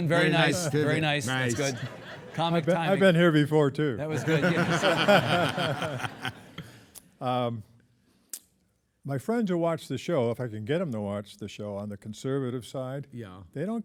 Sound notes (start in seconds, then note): 4.0 hosts and audience laughing; 4.1 laughing